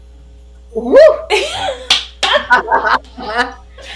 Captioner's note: laughs